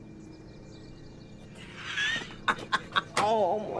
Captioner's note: johnny laughs